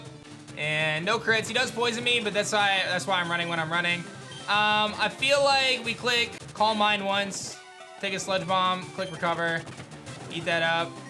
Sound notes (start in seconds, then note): none